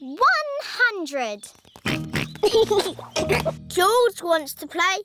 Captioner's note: oinks and giggles